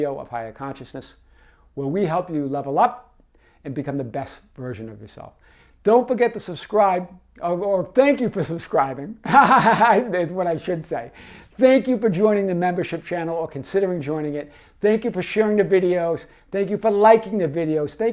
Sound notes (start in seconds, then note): 9.2 laughs